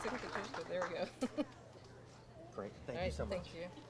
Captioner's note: laughing